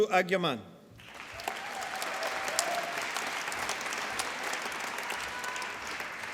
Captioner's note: applause